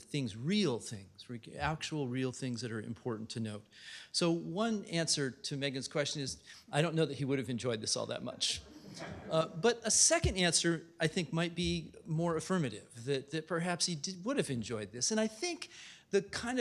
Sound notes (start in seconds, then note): 8.3 laughter